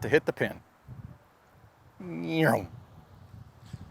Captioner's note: makes race car sound